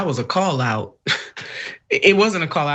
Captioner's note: laugh